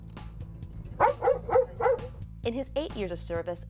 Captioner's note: dog barking